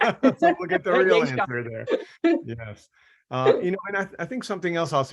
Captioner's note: laughing